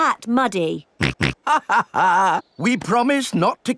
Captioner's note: snorts; chuckles